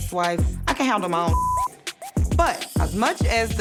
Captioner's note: beep